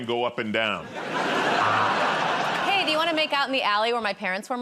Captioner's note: laughter